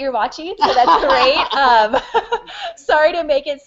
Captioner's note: laughter